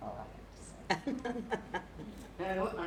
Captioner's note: laughter